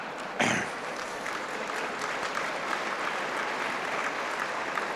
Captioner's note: applause